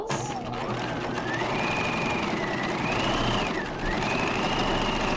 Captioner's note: sewing machine whirring